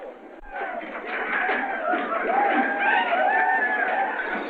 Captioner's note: yelling and gunshots